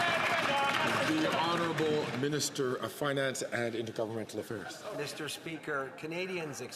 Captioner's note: some Applause